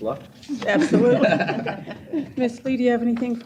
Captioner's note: laughter